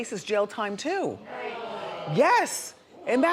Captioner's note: crowd exclaims